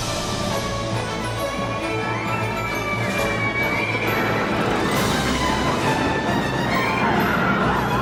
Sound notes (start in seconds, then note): 3.0 riders screaming; 4.4 coaster whirring